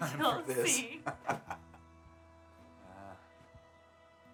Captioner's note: laughing